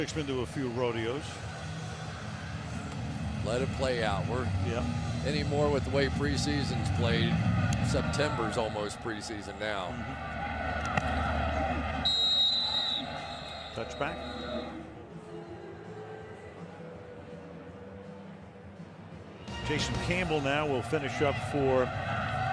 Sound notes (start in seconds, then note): 12.0 whistle blows